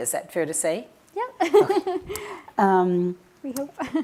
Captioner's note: laughing